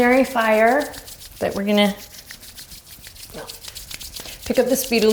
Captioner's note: quick rubbing